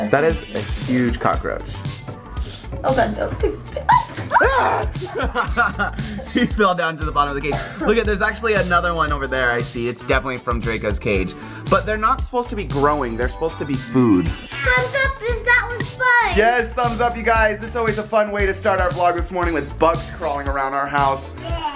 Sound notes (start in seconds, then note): 4.3 screams; 5.2 laughs